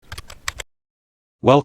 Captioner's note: typing